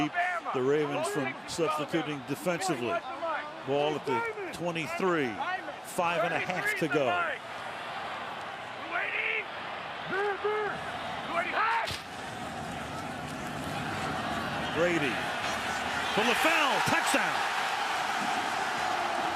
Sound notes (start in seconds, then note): 11.6 cheering